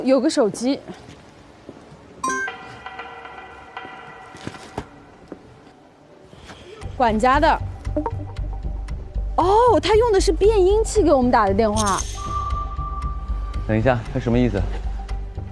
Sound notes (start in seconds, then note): 7.8 phone, voice changer